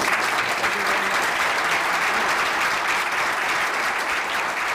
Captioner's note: audience applause